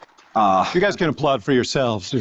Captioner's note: applause